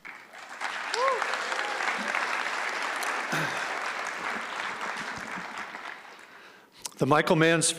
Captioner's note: applause and cheering